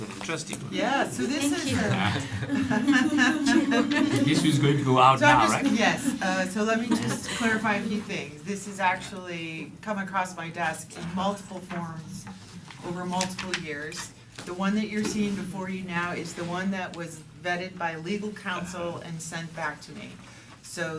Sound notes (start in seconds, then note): 1.6 laugther